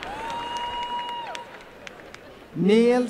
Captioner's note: applause and cheering